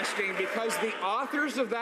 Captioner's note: some applause